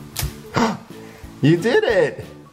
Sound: gasping

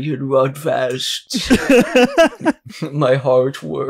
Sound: cackles

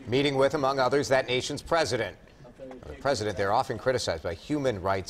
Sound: crowd noise

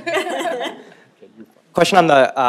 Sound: laughing

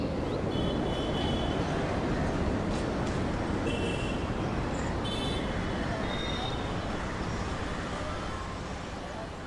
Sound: wind noise. Car horns

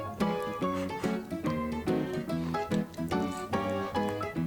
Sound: blowing; eating

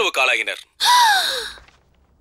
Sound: gasps

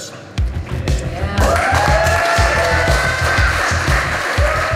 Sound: crowd clapping and cheering

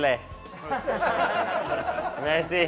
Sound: laughter

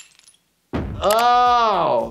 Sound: body thuds

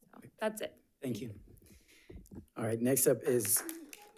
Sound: audience applauds

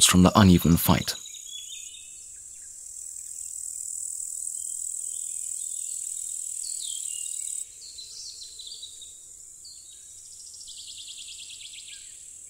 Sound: sounds of nature

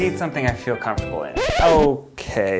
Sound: record scratch

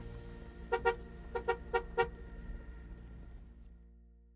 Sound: car horn honking

